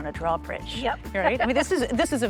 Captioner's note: chuckles